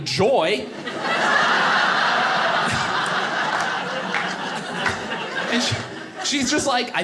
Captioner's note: audience laughing